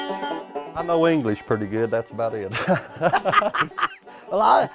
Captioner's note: laughter